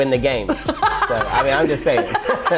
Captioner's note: laughing